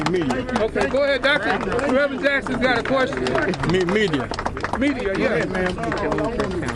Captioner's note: applause